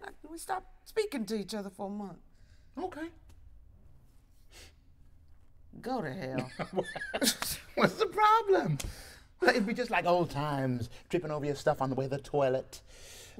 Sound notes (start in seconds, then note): 4.5 sniffs; 6.4 laughs